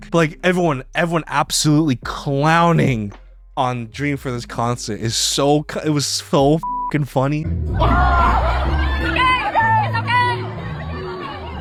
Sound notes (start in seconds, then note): 6.6 beeps